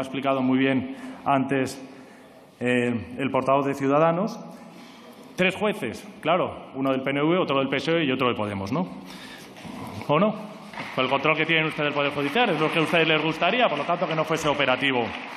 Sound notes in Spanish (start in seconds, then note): 10.7 Aplausos